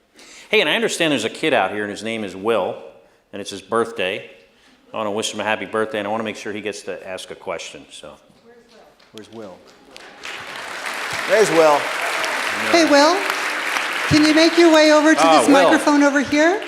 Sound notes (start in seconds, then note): 8.6 applause